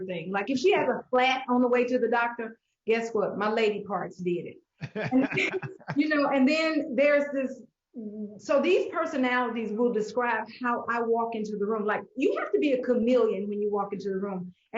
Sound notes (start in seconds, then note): 4.8 laugh